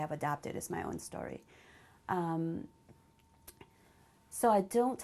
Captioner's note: pauses for 3 seconds